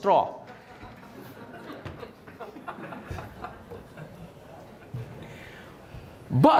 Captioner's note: everybody Laughing